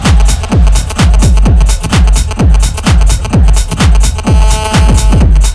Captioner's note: crowd chanting